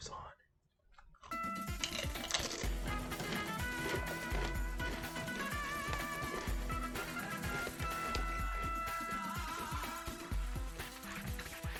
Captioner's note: music restoration crunches